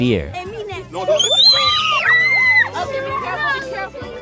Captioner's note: screams